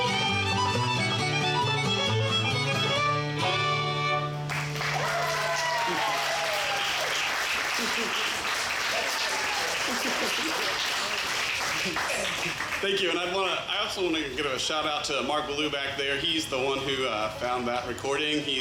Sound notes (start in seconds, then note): 4.4 audience applauds and cheers; 9.6 band laughing